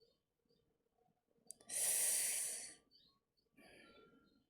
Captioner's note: sharp inhale